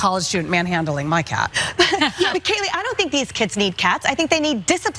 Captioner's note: laugh